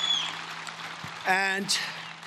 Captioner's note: cheering and Applause